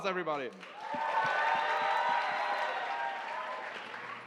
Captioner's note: cheering and applause